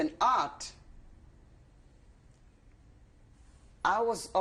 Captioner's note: pauses for 3 seconds